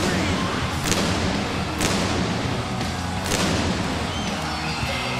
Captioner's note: fireworks popping